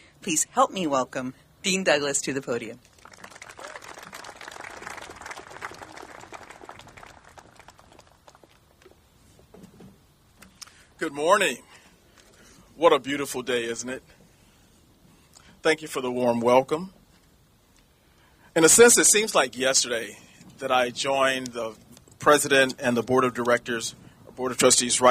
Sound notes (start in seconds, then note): 2.8 applauding